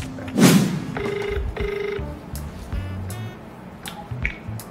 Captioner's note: ringing